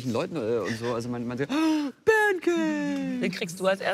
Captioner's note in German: laut